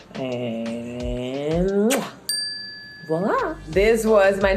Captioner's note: smacking lips